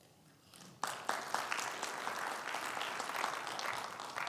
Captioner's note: audience applauding